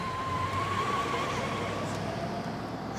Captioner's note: tires screeching